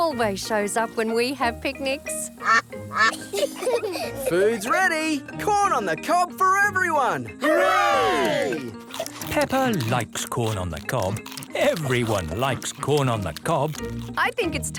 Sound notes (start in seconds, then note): 2.4 quacking; 3.0 children giggle